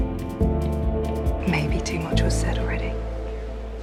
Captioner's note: voiceover